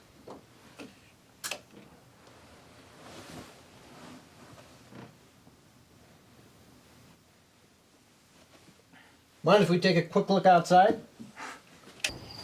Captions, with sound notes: (light switch) Mind if we take a quick look outside?